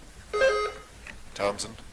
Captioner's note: buzzer chiming